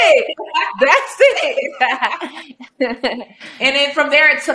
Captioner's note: both laughing